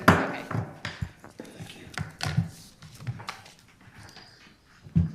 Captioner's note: gavel banging